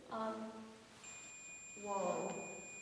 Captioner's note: sustained ringing tone resumes